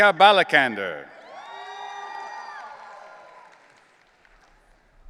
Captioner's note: audience cheering